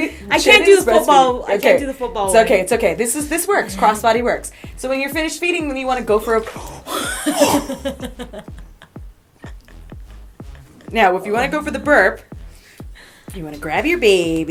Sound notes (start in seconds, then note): 6.5 gasps; 6.9 laughter